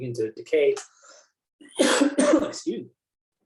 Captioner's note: coughs